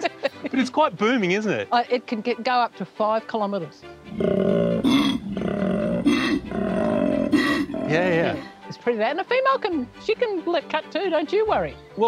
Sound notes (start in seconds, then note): 0.0 both laughing; 4.1 koala vocalises